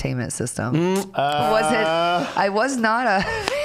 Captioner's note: scattered laughing; chuckling